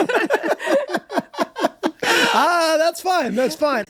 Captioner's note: group laughs